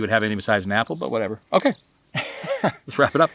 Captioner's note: laughing